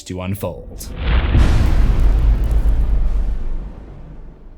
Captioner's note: impact